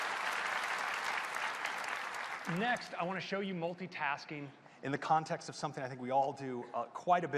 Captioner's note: applause